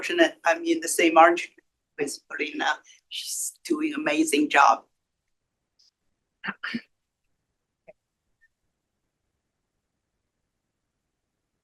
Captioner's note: pause